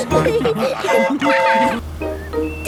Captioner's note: train whistle toots